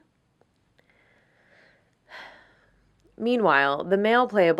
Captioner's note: sigh